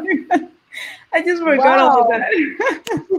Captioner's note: laugh